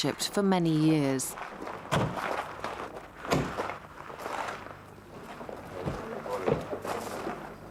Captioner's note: car doors thumping; people murmuring